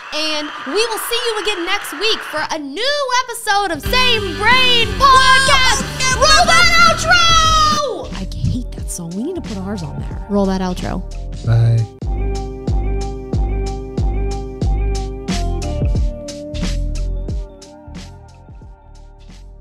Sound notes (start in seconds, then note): 3.8 people shouting; 12.3 upbeat outro music